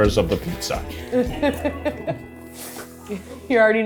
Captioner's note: crew laughing